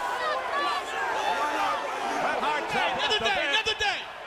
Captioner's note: crowd chatter